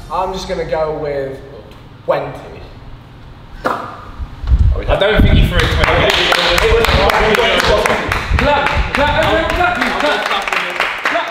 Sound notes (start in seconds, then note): 5.4 applauds; 9.9 group applauds